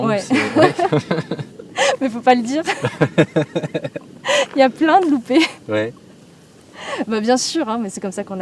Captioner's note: laughs